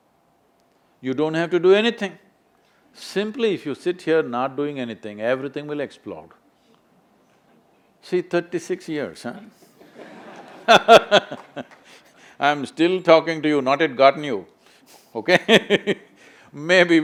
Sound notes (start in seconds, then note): 9.8 laughter; 9.8 laughs; 16.0 laughs